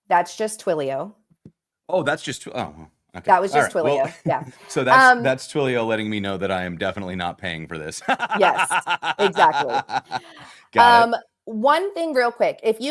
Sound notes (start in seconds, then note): 8.0 laughter